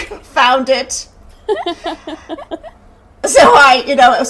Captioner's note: laughing